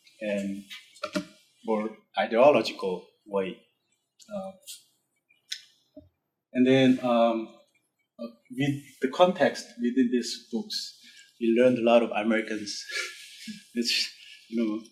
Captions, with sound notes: and more ideological way. And then with the context with these books we learned a lot of Americans (laughs),